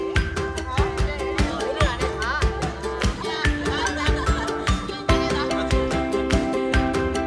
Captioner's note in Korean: 학생들 이야기하는 소리